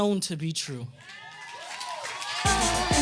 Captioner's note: audience cheers and applauds